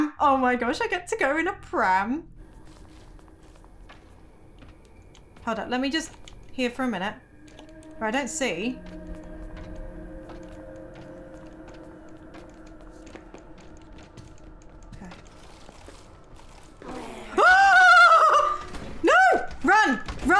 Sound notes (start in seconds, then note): 16.8 screaming